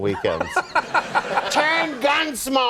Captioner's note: laughing